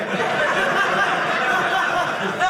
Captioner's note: audience laughing